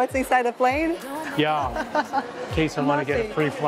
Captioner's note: laughs